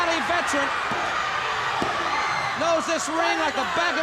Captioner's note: hands thudding